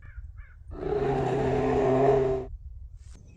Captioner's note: Weird Bear growls in suspicion